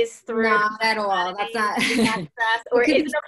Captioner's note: laughs